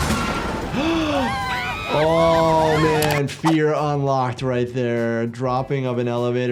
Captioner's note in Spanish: jadeos